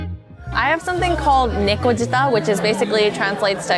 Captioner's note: speaks Japanese